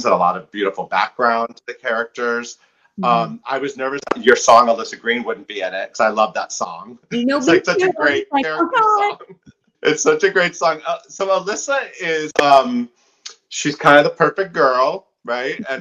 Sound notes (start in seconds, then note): 7.2 chattering; 7.2 laughing